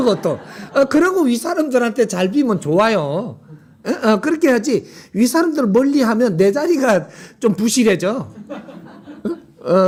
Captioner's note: audience Laughter